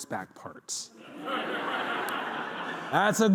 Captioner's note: laughter